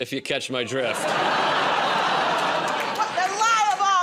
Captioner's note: laughter, groaning